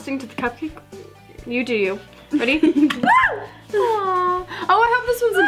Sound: screams

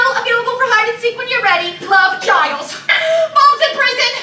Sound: gasps

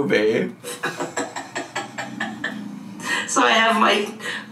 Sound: laughs

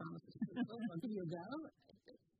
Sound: laughter

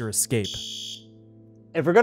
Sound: alarm Sounds

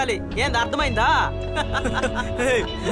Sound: laughs

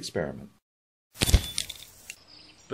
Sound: fizz-POP-tinkle-tinkle

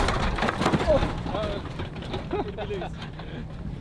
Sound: luggage thuds

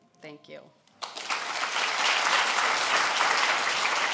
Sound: applause

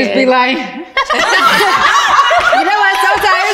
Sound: all laugh

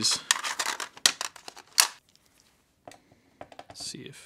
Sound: plastic clanking

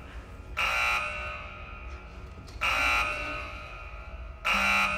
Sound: alarm blaring

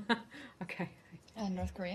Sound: laughter

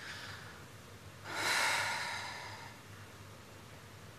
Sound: heavy sigh

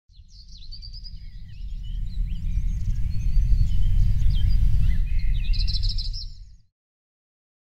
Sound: birds chirping

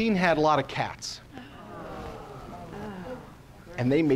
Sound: sighs

